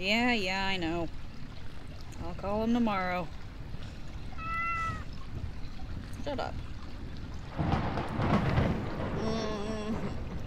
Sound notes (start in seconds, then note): 4.3 meows; 7.5 thunder booms overhead